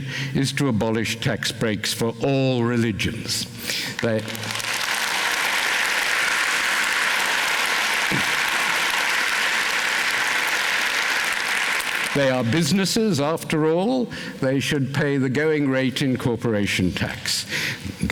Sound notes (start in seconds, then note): 3.9 applause